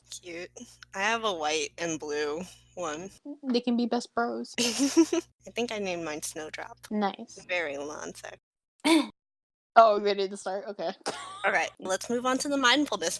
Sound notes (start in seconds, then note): 4.6 laughs; 8.9 ahem